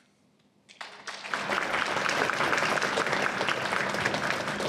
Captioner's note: applause